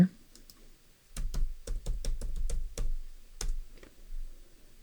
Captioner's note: clicking